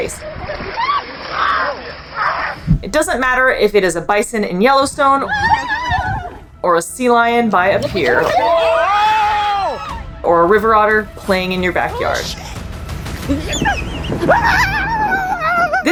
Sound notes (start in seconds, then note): 0.2 water splashing noise; 0.5 screaming; 5.2 screaming; 7.8 screams and yells; 12.2 background music; 12.2 person screaming; 13.1 otter vocalizing